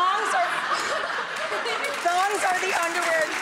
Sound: kids laughing

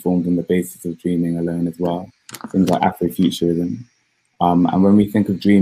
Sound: erm

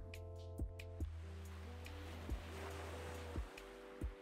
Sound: waves crashing

